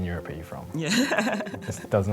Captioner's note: laughter